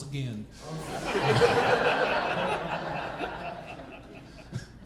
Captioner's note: audience laughing